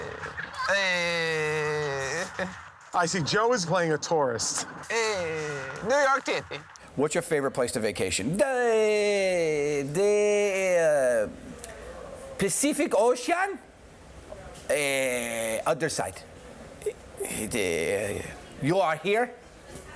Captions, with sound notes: Hey... I see Joe is playing a tourist. [ European accent ] Hey. New York City. [ Normal voice ] "What's your favorite place to vacation?" [ European accent ] Da-- Hey... The, uh, Pacific Ocean? Uh, other side. Uh, you are here.